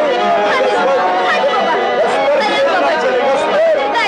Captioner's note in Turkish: Bilek güreşi ortam gürültüsü